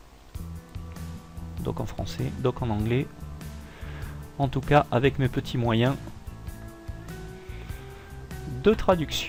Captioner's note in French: en Français / Anglais